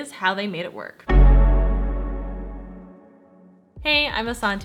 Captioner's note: bell chimes